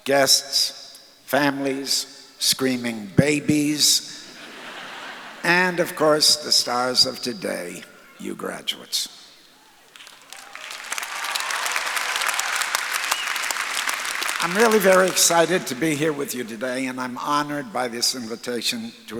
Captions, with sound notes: guests, families, screaming babies, (audience laughs) and, of course, the stars of today, you graduates. (audience applauds) I'm really very excited to be here with you today and I'm honored by this invitation